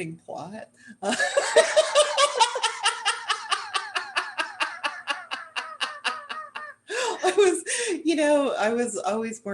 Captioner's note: laughter